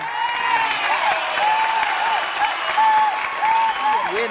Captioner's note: applause